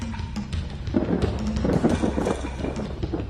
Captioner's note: thunder crackles